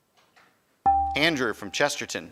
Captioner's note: buzzer chimes